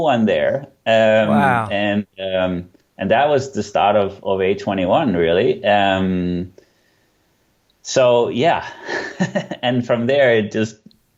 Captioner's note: laughs